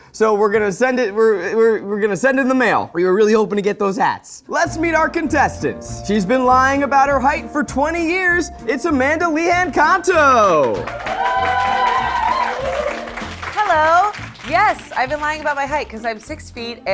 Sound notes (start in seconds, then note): 10.8 crew cheering